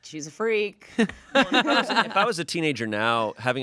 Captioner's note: everyone laughs